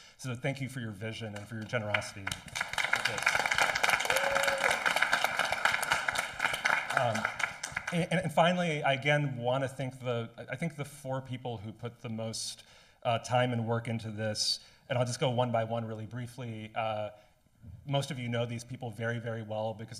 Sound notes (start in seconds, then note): 4.0 audience applauding